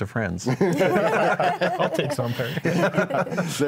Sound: all laughing

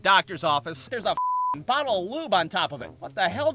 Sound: beep

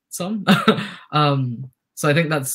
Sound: chuckles

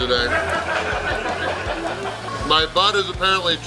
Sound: crowd laughing

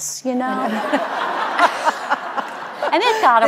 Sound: audience laughing

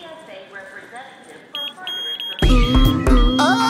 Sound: detector beeping

